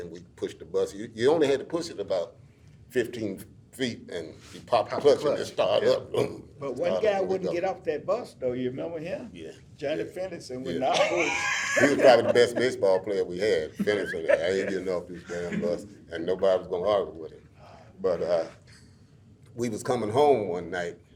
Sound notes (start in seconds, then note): 10.8 laughs